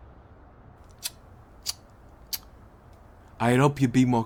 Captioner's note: tsk